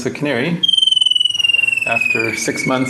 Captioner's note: bird song